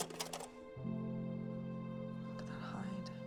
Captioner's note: click